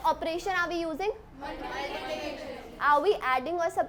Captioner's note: students responding